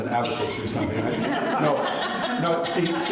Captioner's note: laughter